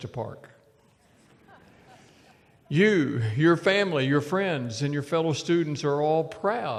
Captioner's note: laughter